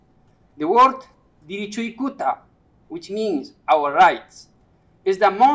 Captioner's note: speaking quechua